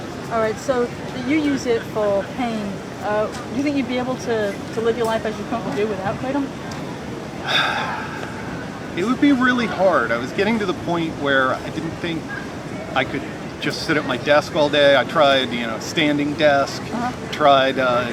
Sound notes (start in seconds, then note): 7.4 sigh